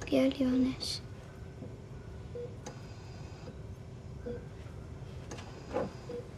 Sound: monitor beeping

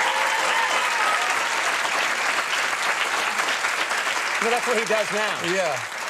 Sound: audience applauds and whistles

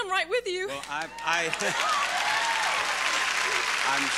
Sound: audience applauding

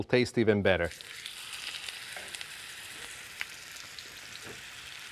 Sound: oil sizzling

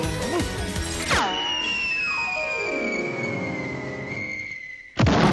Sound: falling cartoon sound effect

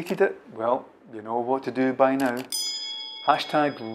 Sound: ding

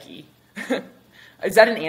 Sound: chuckles

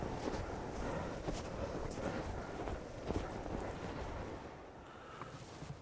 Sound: snow crunching

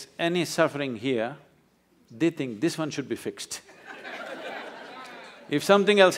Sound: laughter

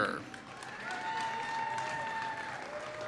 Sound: applause

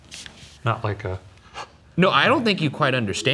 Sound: gasps

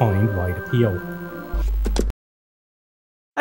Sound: buzz, Click

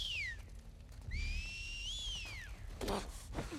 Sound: whistle

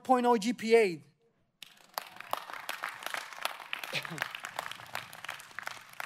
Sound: audience applauding

